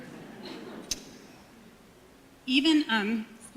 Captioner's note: audience murmuring